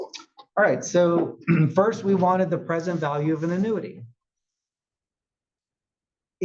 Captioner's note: cough